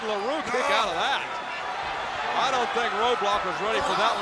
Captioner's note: applause